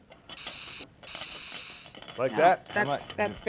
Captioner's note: steam hissing